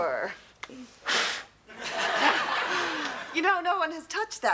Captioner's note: audience laughs